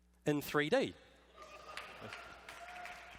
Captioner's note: applause